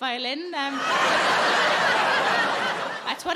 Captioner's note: audience laughing